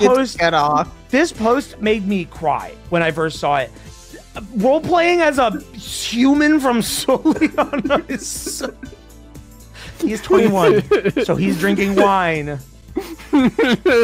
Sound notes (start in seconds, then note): 10.0 laughs